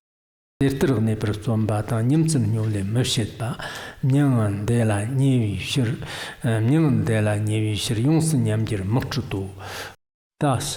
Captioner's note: giving oral transmission in Tibetan